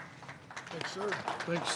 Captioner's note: applause